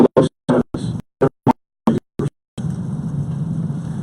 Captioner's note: audio cutting out